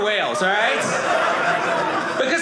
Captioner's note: audience laughing